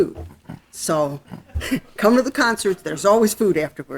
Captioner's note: laughing